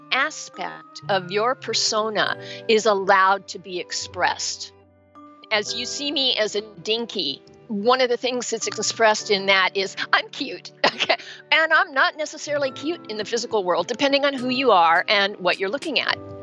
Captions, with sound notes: an aspect of your persona is allowed to be expressed. As you see me as a “Dinkie,” one of the things that is expressed in that is, I’m cute! (laughs) And I'm not necessarily cute in the physical world, depending on who you are and what you're looking at.